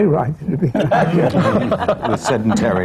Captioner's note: laughter